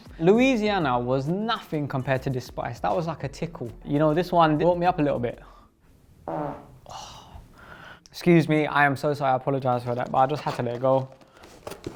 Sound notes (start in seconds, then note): 6.2 farting